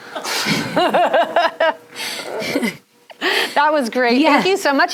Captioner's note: laughing